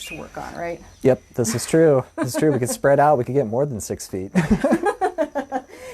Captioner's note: laughter